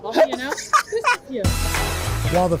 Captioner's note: laughter